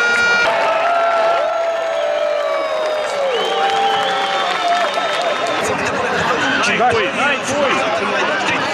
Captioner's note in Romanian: Aplauze